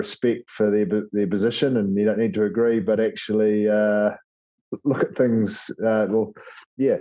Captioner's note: laugh